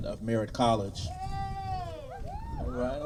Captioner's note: cheers